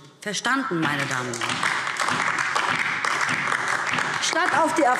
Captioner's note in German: Beifall DIE LINKE und vereinzelt SPD